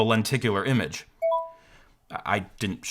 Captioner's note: notification dings